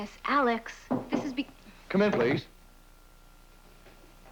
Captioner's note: knock on door